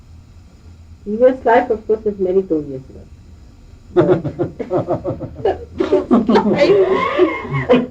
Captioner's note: laughter